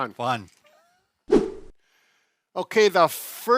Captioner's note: air whooshes